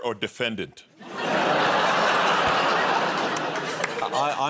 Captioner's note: laughter